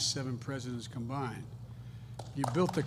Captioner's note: applause